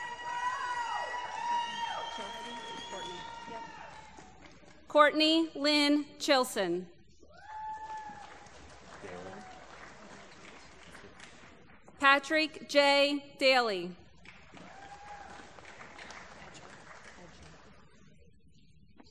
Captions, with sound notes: [ Applause ] Cortni Lynne Chilson. [ Applause ] Patrick J. Daly. [ Applause ]